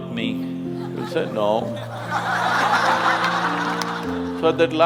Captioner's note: laughter